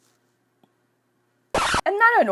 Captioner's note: record scratching